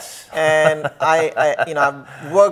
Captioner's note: laughs